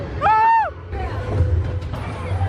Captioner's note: screams; rollercoaster rumbles